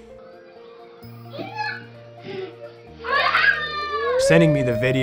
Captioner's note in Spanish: personas gritando con entusiasmo